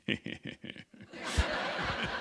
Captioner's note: laughter